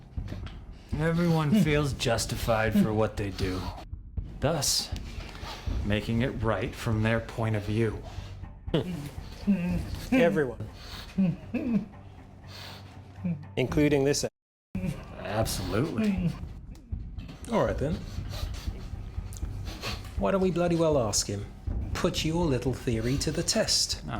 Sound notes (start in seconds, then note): 17.2 breathing heavily